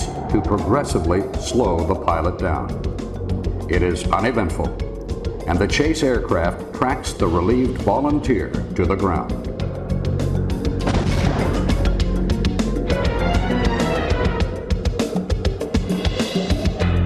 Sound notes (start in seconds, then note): 10.8 rocket explodes; 13.3 rhythmic dramatic music